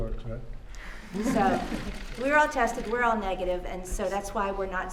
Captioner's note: laughter